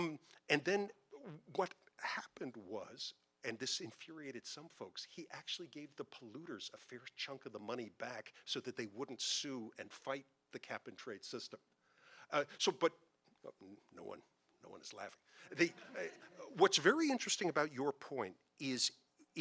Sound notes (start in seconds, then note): 15.5 audience laughing